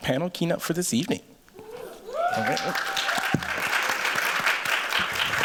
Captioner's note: cheers, applause